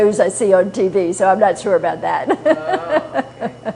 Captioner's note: laughter